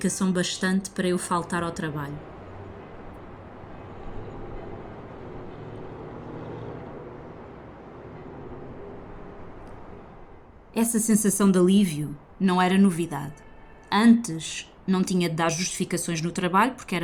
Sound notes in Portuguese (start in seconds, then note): 4.2 ruído da cidade à noite